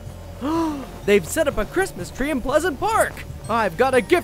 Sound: gasps

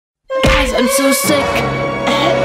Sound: coughs

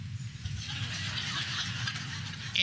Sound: laughter

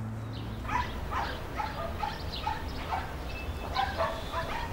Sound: dogs Barking

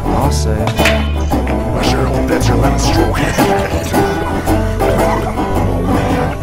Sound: chuckling

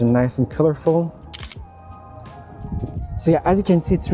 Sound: camera clicking

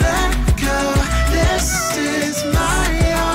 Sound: deep female voice

